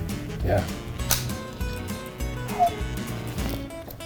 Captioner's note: upbeat music continues; device clicking